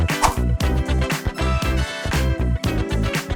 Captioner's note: lively upbeat music; whoosh